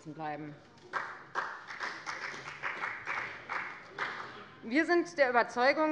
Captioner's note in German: Beifall bei der FDP